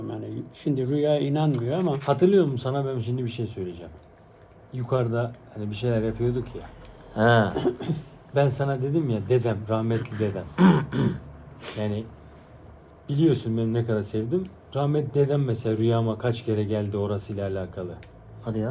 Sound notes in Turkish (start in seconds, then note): 9.9 öksürme; 10.0 boğazını temizler